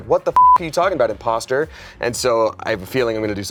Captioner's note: beep